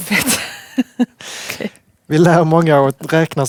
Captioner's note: laughing